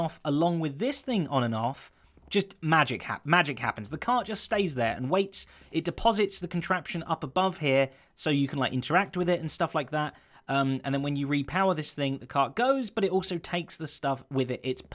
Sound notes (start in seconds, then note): none